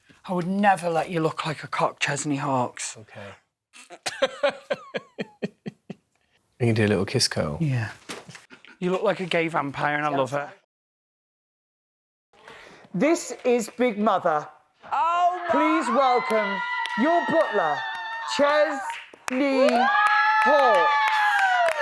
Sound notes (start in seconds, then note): 3.7 laughs; 14.9 cheering; 15.6 applause